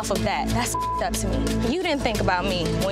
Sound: beep

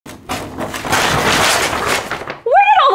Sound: poster ripping

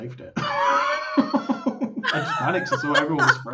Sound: laughing

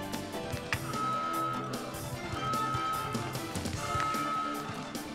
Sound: alarm blaring

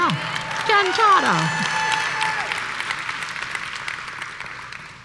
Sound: applause

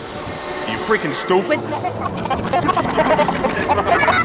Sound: proceeds to laugh manically

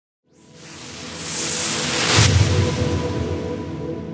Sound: whooshing

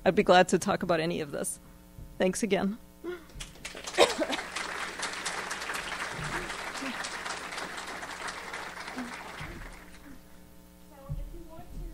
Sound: applause

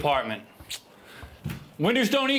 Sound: sucking teeth

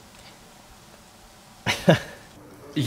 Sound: laughs

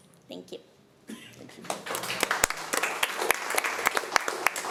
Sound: applause

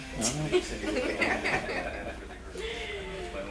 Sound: laughter

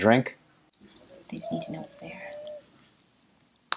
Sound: offscreen whispering

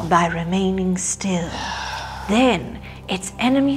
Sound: sigh

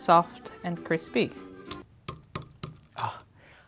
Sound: potato dish cracking

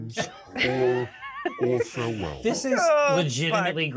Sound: speaker chuckles

